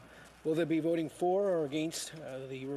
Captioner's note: speaking French